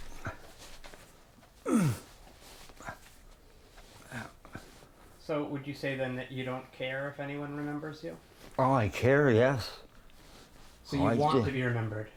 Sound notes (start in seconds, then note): 1.6 grunts